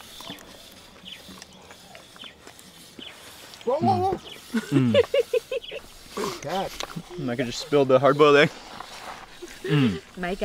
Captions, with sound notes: (laughing) Micha just spilled a hot boiled egg